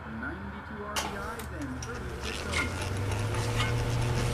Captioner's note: click, whirr